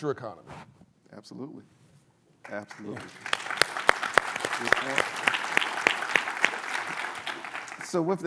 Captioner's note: applause